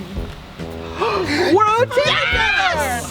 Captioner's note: campers exclaiming; gasps